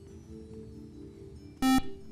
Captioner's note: buzzer